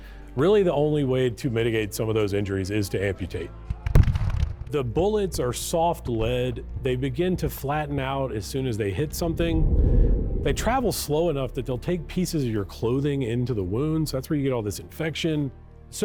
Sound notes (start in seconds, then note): 4.0 explosion booming; 9.2 air whooshes